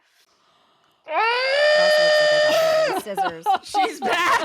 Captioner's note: screaming; all laughing